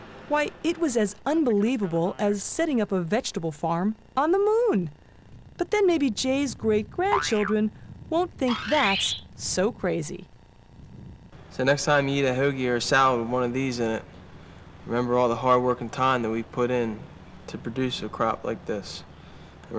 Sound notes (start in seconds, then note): none